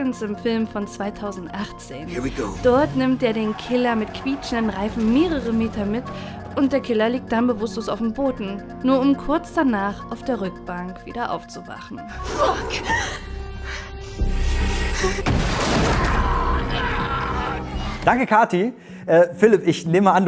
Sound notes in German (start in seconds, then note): 14.1 dramatische Musik; 15.7 Schreie